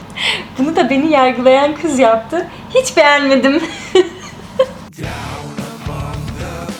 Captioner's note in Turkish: kahkaha